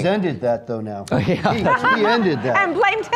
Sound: laughing

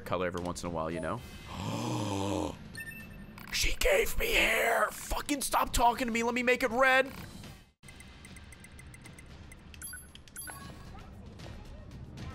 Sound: gasps

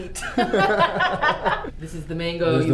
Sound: laughing

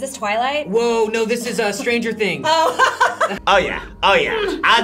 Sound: laughs

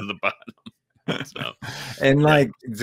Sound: both laughs

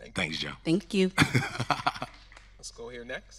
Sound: laughing

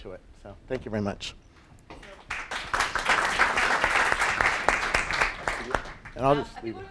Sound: applause

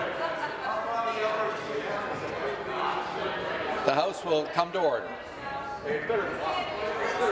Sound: conversation din

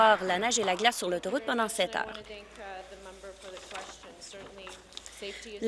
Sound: applause

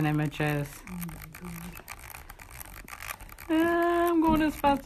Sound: reel clicking

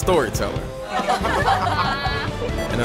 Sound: laughter

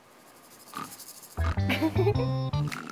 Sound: sniff; just sniffing as told

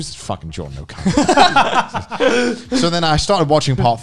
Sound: men laughing

